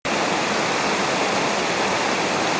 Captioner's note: relaxing Rain